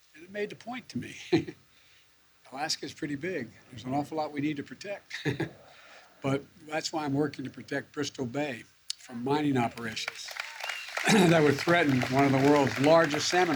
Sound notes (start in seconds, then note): 5.1 laughs; 9.6 applause